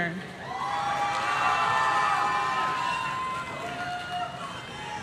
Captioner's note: audience cheering